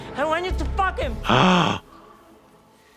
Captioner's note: Kim puffs